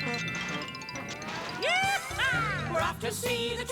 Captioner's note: hoobmobile starting; whooping